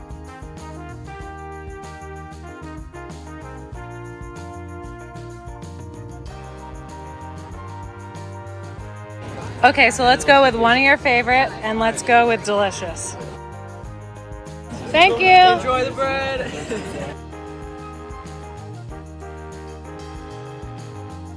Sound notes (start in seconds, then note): 14.7 laughs; 17.8 gentle cheerful music